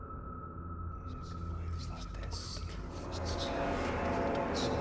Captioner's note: ghostly voices whispering